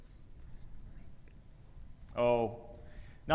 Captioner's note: presenters whispering